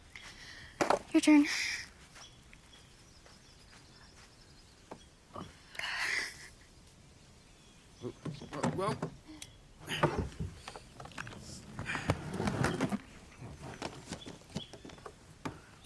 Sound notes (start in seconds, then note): 6.0 chuckles; 9.8 rhett grunts